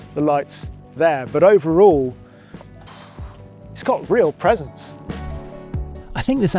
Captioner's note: exhales